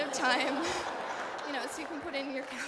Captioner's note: laughter